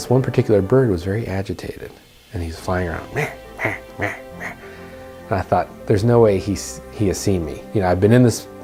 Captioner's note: birds sounds